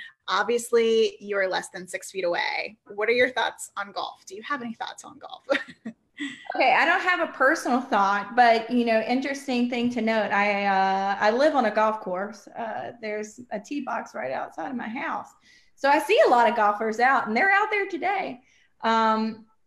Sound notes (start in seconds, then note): 6.1 laughs